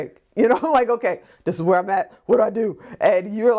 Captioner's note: laughs